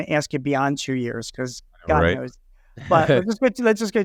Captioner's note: chuckles